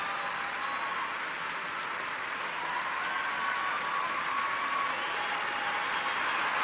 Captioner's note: cheers and applause